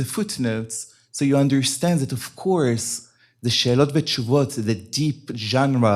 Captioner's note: hebrew